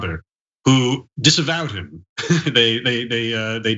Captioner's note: laugh